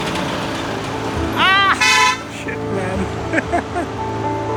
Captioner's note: scream; nervous laugh; horn